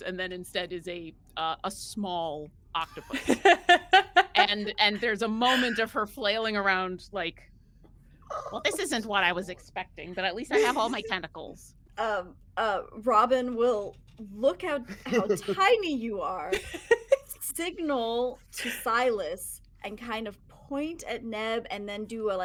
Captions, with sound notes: and then instead is a small octopus. (person laughing) And there's a moment of her flailing around like, well, this isn't what I was expecting, but at least I have all my tentacles. - Robin will look how how tiny you are, signal to Silas and kind of point at 'Neb and then do